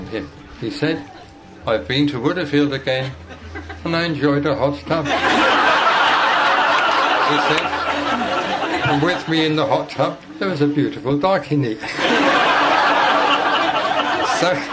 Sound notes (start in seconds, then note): 5.0 laughter